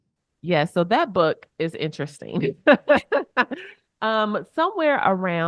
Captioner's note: chuckles